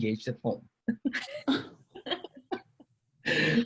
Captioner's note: laughs